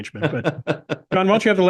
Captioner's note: laugh